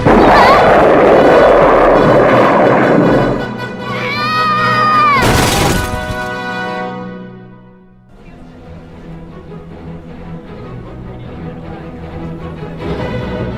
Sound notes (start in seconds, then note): 0.0 swoosh; 3.8 screaming; 5.2 crash